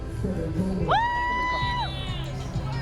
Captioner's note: cheering